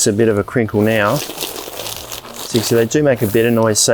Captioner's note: mat rustling